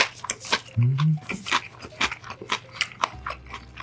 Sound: impressed

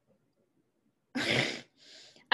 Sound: laughs

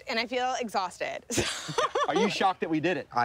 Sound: laughing

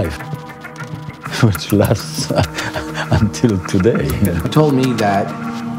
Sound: laughing

